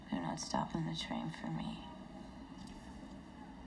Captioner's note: none